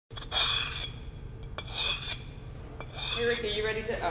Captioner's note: scraping